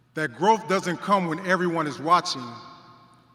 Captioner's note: none